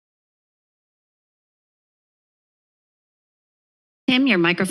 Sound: silence

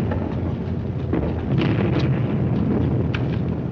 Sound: explosion

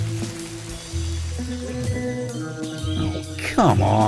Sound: rain stops

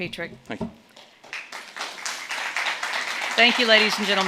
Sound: audience clapping

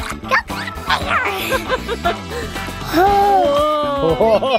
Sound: laughing

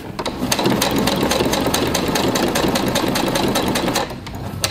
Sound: machine whirring

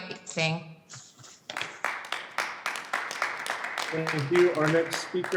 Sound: audience clapping

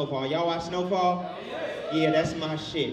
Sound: overlapping chattering

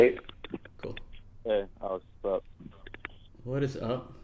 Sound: male Voice

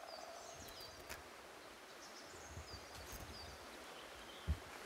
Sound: chirping continues

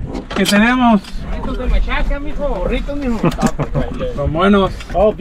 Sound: man speaks Spanish

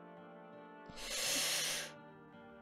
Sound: inhales

